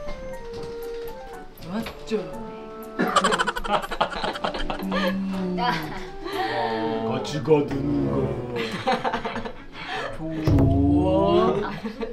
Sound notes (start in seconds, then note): 3.0 lolololol